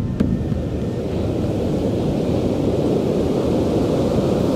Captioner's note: waves roaring